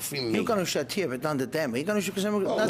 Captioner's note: speaking foreign language